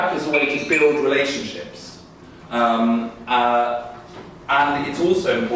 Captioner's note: alarm ringing